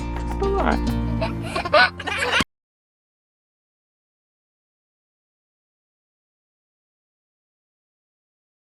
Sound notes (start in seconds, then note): 1.2 baby giggles